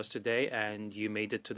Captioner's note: speaking French